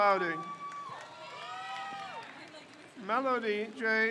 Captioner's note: crowd cheers